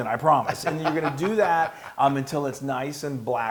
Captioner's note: laugh